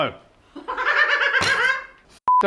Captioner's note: laughing